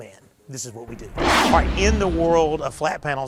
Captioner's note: dramatic booming